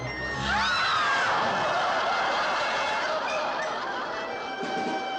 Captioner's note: audience shrieks